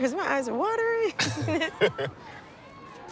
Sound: both laugh

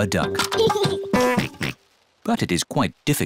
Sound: giggles and oinks

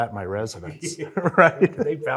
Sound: both laugh

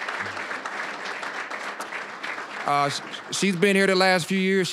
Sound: applause

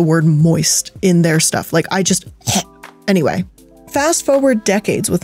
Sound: imitates retching

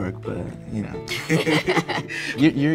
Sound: Michael and Sophie laugh

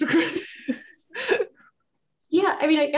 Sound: laughing

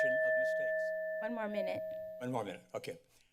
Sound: bell chimes

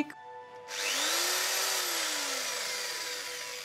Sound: drill whirrs

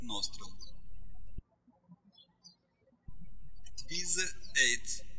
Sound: birds chirping

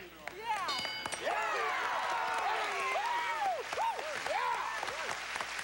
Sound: cheers and applause

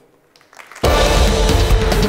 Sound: applause; dramatic music playing

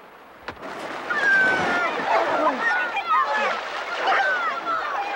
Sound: kids screaming

